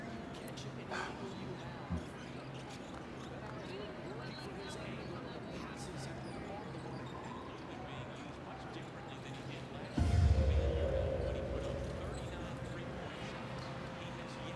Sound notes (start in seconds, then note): 3.0 TV quietly prattling; 10.0 suspenseful music